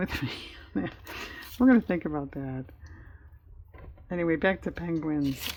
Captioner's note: laughs